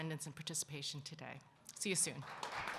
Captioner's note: applause